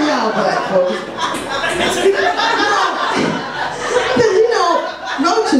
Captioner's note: audience laughs